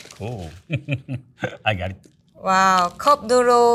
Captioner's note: chuckling